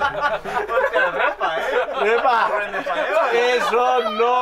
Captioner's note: laughing